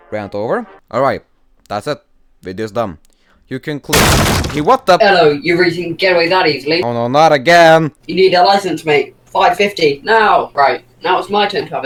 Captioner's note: sound of door getting broken down